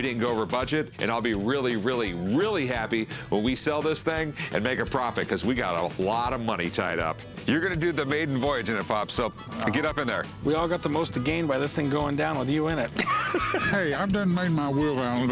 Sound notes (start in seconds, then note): 12.8 laughs